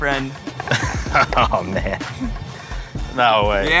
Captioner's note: laughing